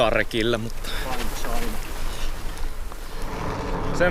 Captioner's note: in a Finglish accent